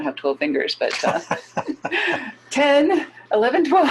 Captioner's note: both laughing